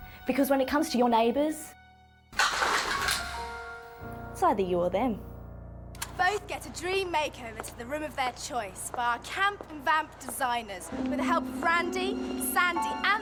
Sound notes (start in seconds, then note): 2.4 guns clicking; 10.8 ominous music